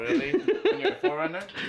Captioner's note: laughing